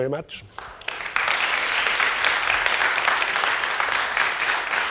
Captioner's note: audience applauding